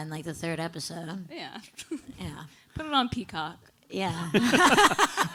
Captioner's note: laughing